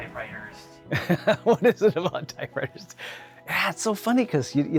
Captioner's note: laughing